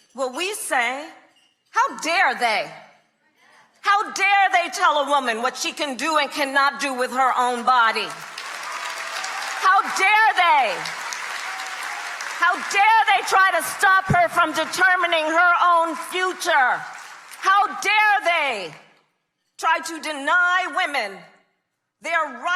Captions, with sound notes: will we say, how dare they? How dare they tell a woman what she can do and cannot do with her own body? (crowd cheering) (crowd clapping) How dare they? How dare they try to stop her from determining her own future? How dare they try to deny women their rights